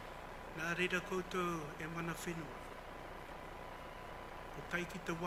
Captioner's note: speaks foreign language